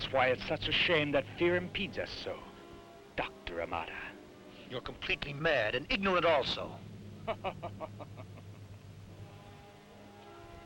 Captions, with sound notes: And that's why it's such a shame that fear impedes us so, Doctor Almada. - You're completely mad and ignorant also! (Krupp laughs)